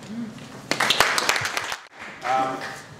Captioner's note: applause